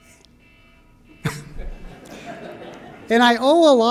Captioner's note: laughter